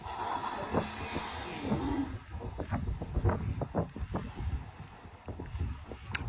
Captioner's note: more whale breaths